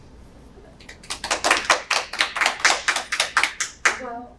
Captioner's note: panelists applauding